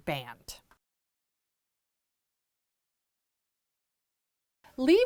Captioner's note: no Sound Present